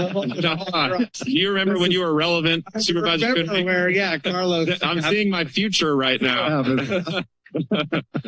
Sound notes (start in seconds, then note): 7.4 laughter